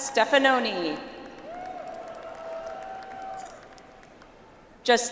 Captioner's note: audience applauds